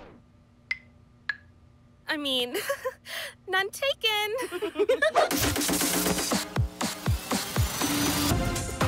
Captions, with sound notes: I mean... [chuckling] -None taken. -[laughing] [upbeat music]